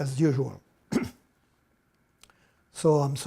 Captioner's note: clears his throat